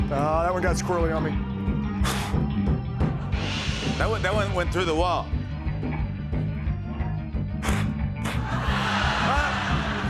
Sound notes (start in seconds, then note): 2.0 spits; 7.6 spits; 8.9 laughter